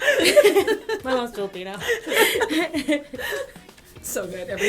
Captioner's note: laughter